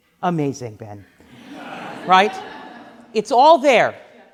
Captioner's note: laughing